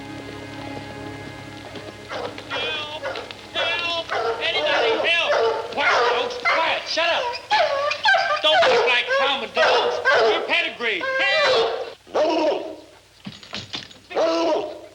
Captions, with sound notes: (dog barking) - Help, help, anybody help. Quiet dogs, quiet, shut up. Don't act like pound dogs, you're pedigree. Help. (dog barking)